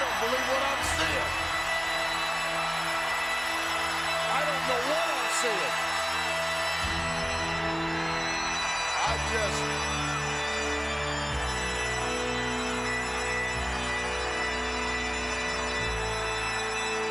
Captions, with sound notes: I don't believe what I'm seeing. I don't know what I'm seeing. (solemn funereal music continues) (crowd cheers) I'm just... (solemn funereal music continues)